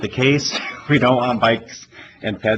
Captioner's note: laughs